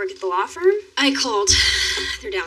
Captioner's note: sighs